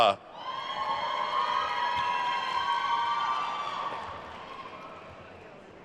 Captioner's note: attendees cheering and applauding